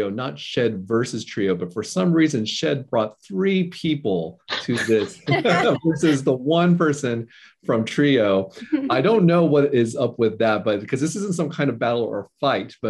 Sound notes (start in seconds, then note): 4.5 chuckles